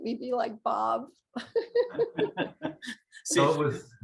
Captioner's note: laughing